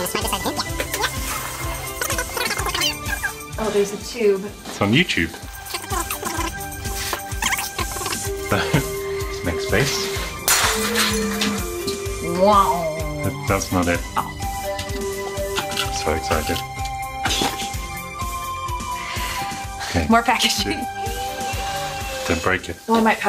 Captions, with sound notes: (sped up music playing) - Oh, there's a tube. - It's on YouTube. (sped up music playing) Let's make space. (glass crashing) - Wow! - That's not it. So excited. - More packaging. - Don't break it.